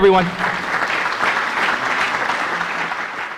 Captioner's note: applause